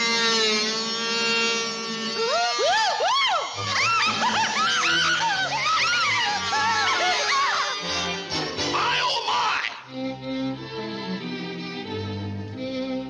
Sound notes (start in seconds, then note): 0.0 fabric buzzing; 2.7 dancers squealing; 3.2 fabric buzzing; 4.2 dancers screaming; 9.9 gentle music